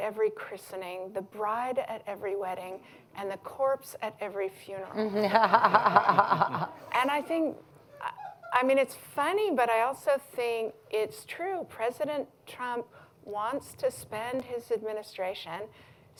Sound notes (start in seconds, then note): 5.0 laughter